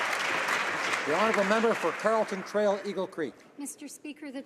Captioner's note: some Applause